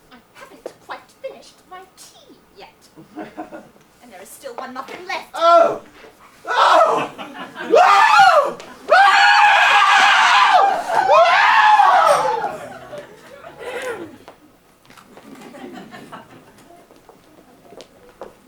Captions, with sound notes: - I haven't quite finished my tea yet! And there is still one muffin left. - Oh! Oh! (Jack screams) (audience laughs)